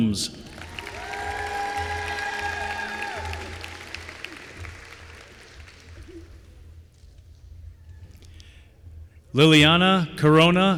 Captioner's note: applause